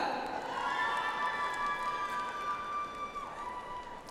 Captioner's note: audience applauds